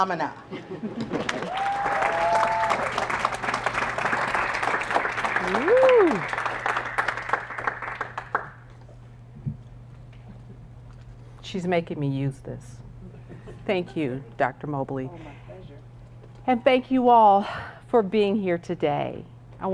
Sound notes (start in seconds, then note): 0.3 laugh; 3.4 applause; 13.0 laugh